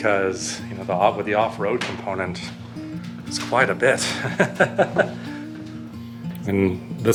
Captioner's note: laughs